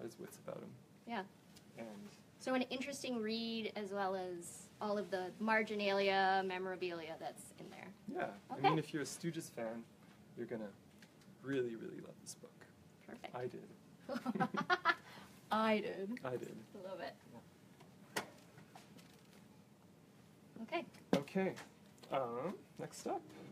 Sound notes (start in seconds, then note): 14.2 laughter and mocking comradery